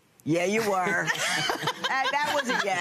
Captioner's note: laughter